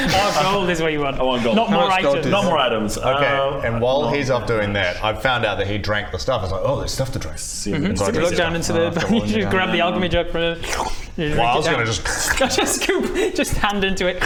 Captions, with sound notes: Oh gold is what you want I want gold - Not more items - not more items - How much gold do you have? - Okay, and while he's off doing that - not very much I found out that he drank the stuff I was like oh there's stuff to drink - Mhmm - 7...77 - you look down into the, you grab the - Ah I've got more than you now - alchemy jug from him - yeah I know - you just drink it down - Well I was gonna just *slurp* Just scoop! Just hand into it